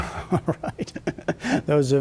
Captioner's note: laughter